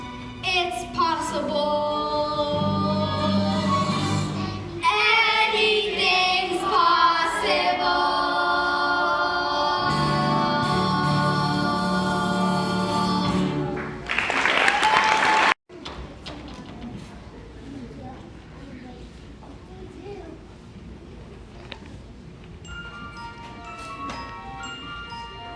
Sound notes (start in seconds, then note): 13.8 applause; 14.0 song ends